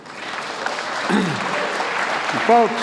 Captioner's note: applause